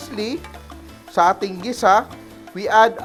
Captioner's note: sizzle